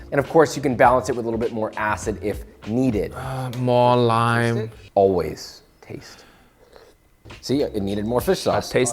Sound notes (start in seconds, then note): 6.5 slurping